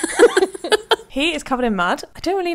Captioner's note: laughing